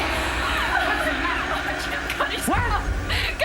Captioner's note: crying